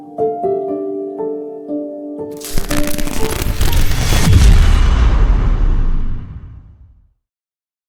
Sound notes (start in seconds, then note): 2.3 electricity crackling; 3.3 dramatic thud